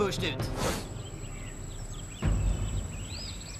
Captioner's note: birds chirping